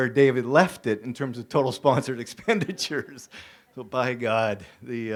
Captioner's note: laughs